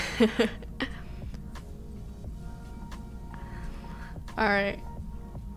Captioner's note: laughing